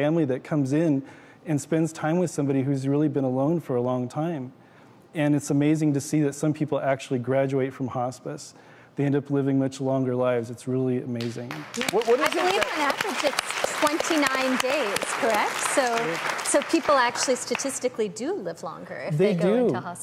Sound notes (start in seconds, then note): 11.6 applause